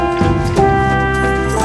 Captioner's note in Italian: Applauso